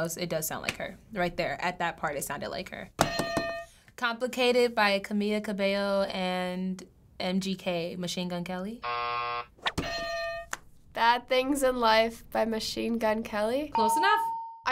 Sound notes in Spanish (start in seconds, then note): 8.8 buzzer; 13.8 ding